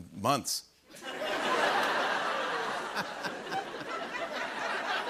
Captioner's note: laughter